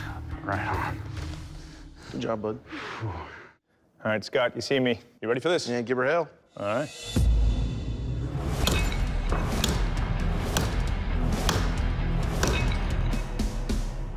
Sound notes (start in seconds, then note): 2.6 exhales